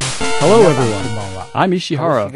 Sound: music fades; in dubbed-over voice

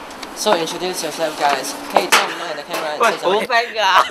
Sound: laugh

